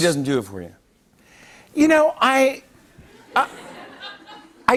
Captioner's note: light laughter